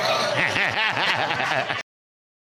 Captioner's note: all laughing